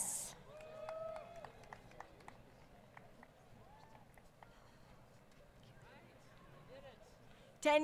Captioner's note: crowd Cheering